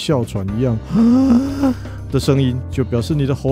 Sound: wheezing

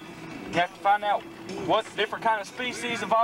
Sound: none

